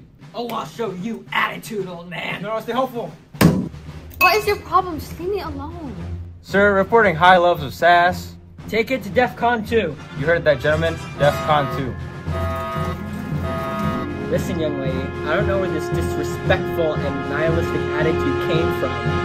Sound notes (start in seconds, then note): 11.9 alarms blaring. Suspenseful music intensifies